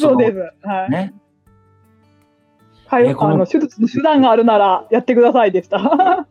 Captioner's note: laughs